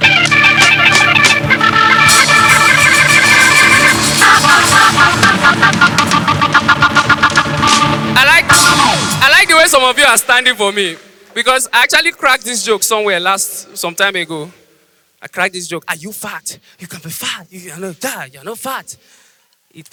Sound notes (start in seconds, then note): 0.6 organ Sound Effect; 4.6 audience applause